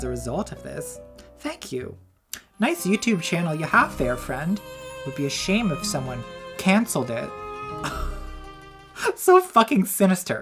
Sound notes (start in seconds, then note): 3.6 sad violin music; 7.7 laughs